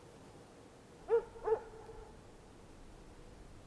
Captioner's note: dogs barking